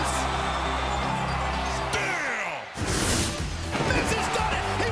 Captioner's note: crowd cheering